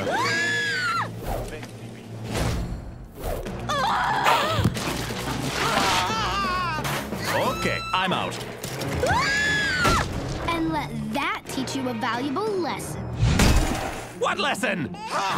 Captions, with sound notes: (scream) (scream) (baby crying) Ok, I'm out (scream) And let that teach you a valuable lesson What lesson?!